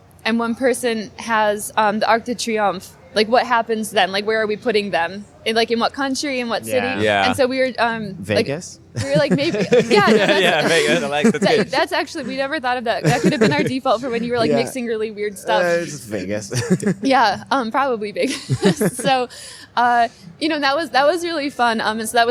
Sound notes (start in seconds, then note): 8.9 laughter; 15.4 laughing; 18.2 laughter